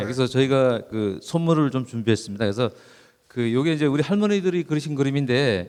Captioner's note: speaking in foreign language